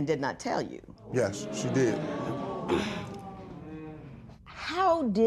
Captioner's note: spectators murmur